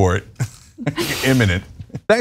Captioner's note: laugh